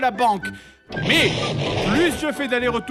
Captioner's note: explodes